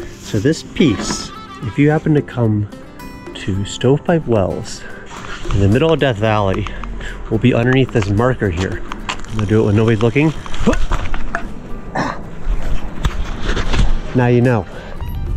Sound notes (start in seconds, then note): 11.9 sighs